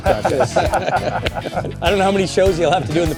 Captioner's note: laugter